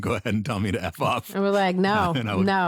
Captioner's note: laughing